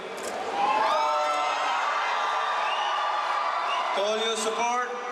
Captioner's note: crowd cheering